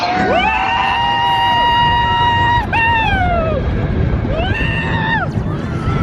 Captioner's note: coaster rumbles; pair screams